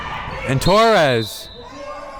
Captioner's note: whistle